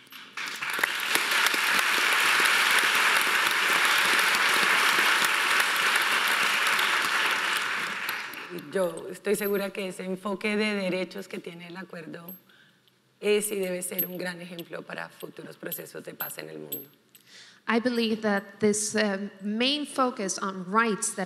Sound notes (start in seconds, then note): 0.0 audience applauding; 8.9 speaking in foreign language